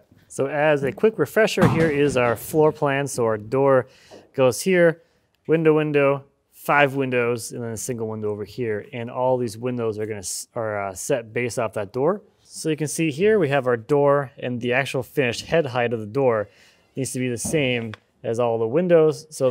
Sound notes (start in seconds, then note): none